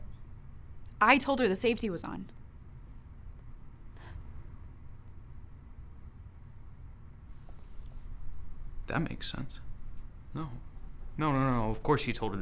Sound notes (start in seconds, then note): 4.0 Mae scoffs